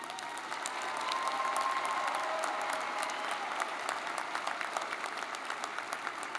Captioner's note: audience cheering and applauding